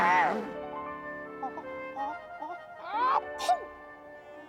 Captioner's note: sneezes